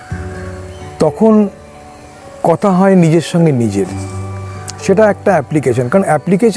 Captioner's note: talking